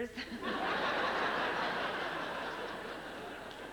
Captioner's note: laughter